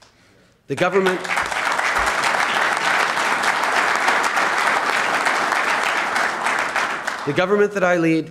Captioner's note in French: Applaudissements